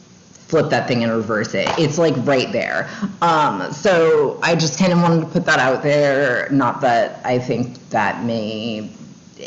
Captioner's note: mumbles